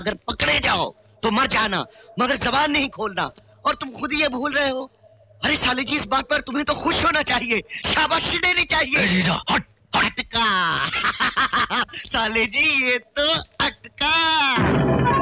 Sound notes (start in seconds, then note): 10.7 laughing